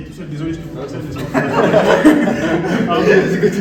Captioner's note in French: désolé je te coupe - Rires